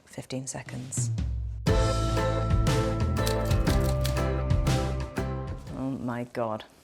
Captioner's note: keys clicking; upbeat music